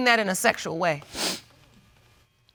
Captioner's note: sniffs